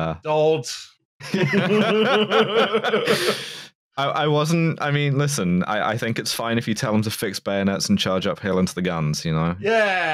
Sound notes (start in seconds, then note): 1.2 laughter